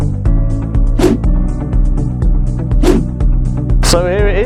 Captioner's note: logo whooshing